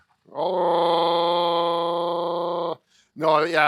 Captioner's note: growling